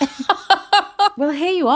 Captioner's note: laughing